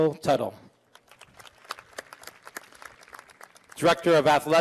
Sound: applause

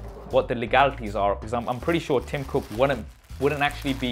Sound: plastic crinkling

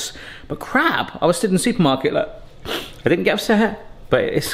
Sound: sniffles

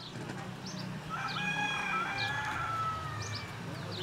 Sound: rooster crows

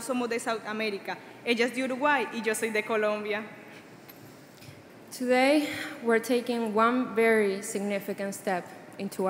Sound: speaking Spanish

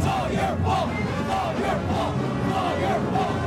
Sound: chanting

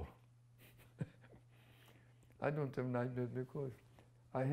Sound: laughs

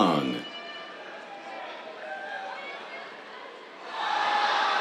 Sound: cheers

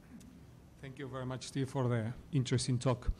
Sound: voiceover

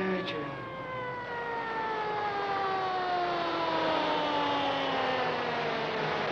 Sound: ambulance siren wailing growing louder

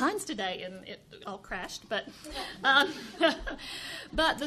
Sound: chuckles

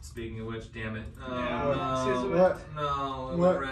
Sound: groaning

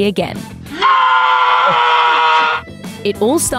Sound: screaming

